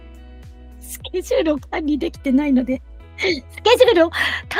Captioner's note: laughs